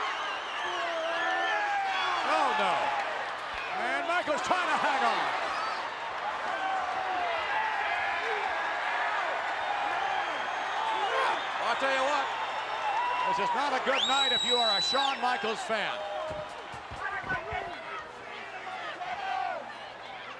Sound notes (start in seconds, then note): 7.0 crowd cheering; 17.3 crowd chattering